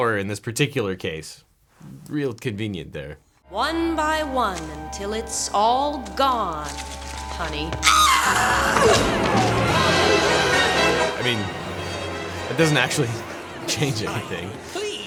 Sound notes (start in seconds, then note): 7.8 Poison Ivy screams; 9.4 dramatic music